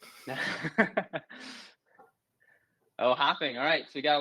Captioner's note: laughs